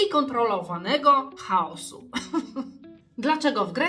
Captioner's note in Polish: śmiech